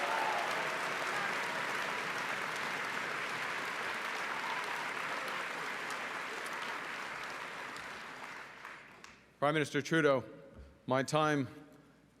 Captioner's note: cheering and Applause